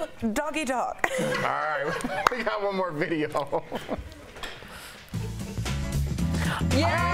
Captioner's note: laughter